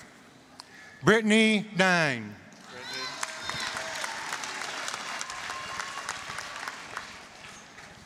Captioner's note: applause